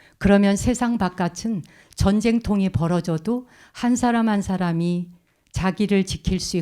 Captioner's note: speaking in Korean